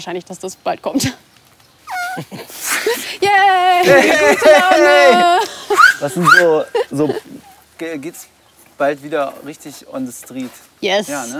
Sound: laughs

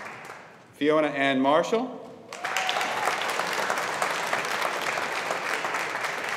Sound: audience applauding

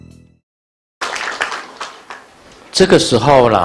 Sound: audience applause

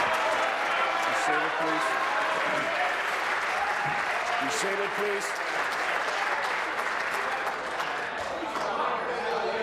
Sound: applause

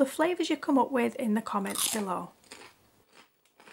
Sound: crunch!

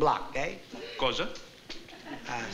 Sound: italian

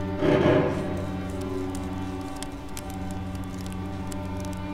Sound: nails filing; tense string music continues

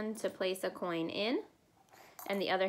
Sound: coin tossing

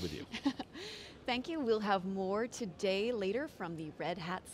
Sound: giggles

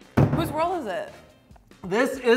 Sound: thumps

